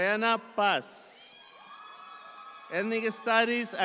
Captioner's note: audience applauds